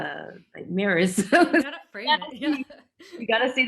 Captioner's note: laughing